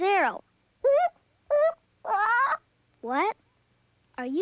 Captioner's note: hoots and squawks